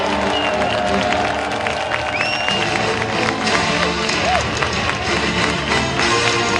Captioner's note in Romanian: Aplauze